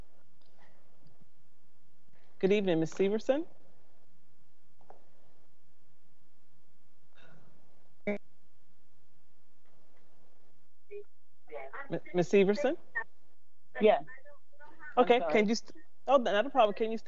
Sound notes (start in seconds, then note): 8.1 distortion; 14.6 people chattering